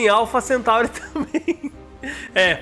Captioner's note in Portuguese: risos